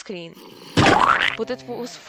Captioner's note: splat